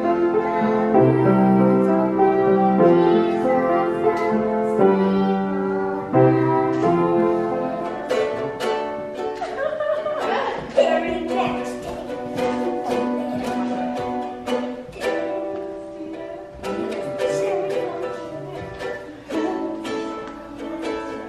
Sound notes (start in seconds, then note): 8.2 banjo music; 9.3 laughing